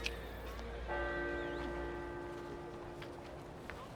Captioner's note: bell tolling